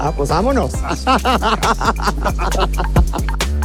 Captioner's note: laughs